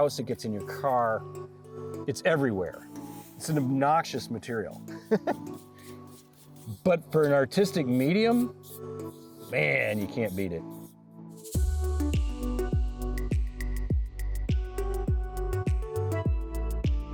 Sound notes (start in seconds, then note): 4.9 chuckles; 5.6 sand rustling; 11.3 lively music